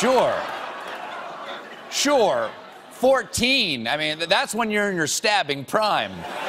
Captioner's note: laughter